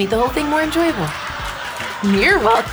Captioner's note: audience laughing